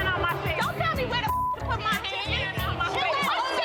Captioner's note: beep; all murmuring